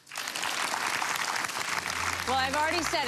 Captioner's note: audience applause